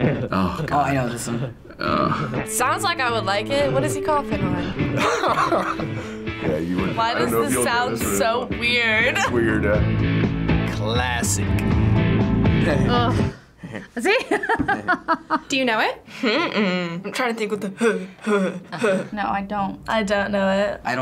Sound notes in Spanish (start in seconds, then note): 1.2 gimiendo; 4.4 Riéndose; 11.7 gimiendo; 16.1 riendo